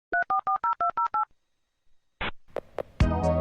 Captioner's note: dial-up sounds